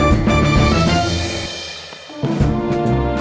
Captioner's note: Neptune's Engine Revs